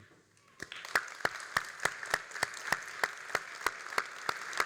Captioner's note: all applauding